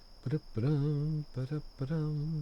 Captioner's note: humming